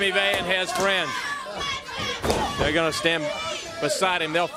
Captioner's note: crowd chatter